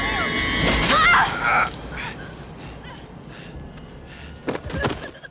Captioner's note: woman screams